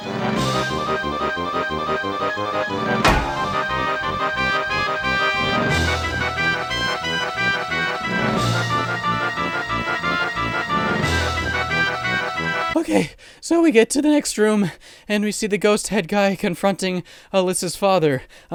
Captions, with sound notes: *DONK* (out of breath) OK, so we get to the next room, and we see the Ghost Head guy Alyssa's father.